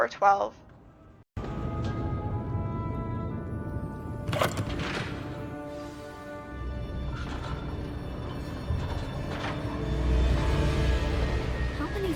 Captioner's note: dizzying rollercoaster noises